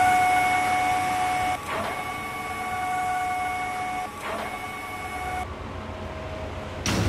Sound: crane whirs

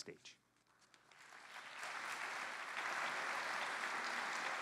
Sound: applause

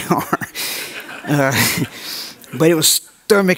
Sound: audience laughs

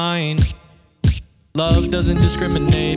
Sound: vocal percussion

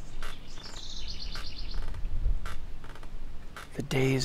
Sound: birds chirping

